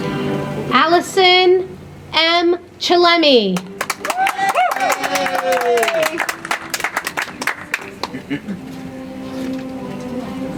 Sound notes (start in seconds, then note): 3.6 audience applauds; 8.0 soft music